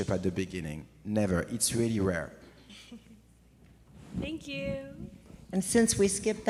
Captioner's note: audience member chuckles